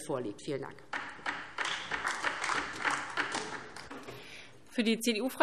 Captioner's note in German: Beifall DIE LINKE